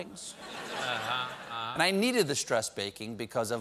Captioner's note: laughter